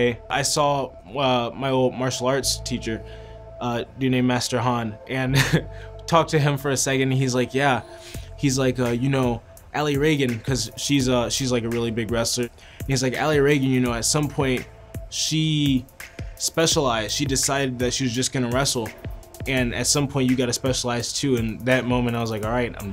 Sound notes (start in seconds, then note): 5.3 laughs